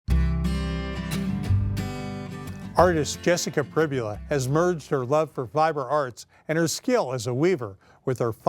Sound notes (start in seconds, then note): 0.0 guitar music; 3.0 voiceover